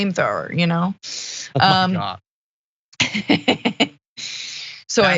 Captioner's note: laugh